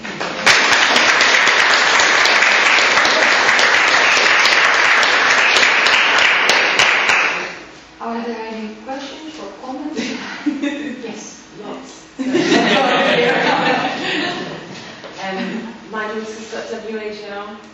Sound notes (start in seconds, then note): 0.1 audience applauds; 12.2 audience laughs